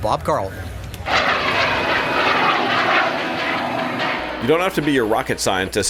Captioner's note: plane engine